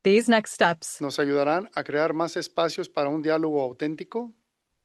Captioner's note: non-english speech